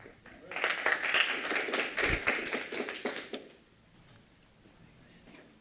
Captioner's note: applause